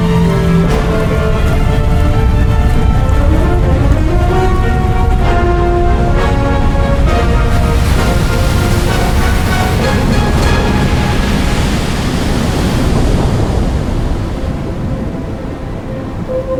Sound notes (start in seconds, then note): 7.7 waves crashing; 13.0 water burbling; 14.4 soft dramatic music